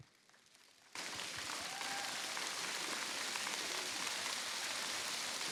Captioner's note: cheers, applause